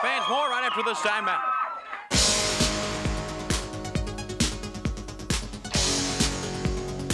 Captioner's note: crowd cheering; upbeat music